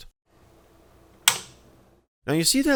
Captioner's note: power switch flicked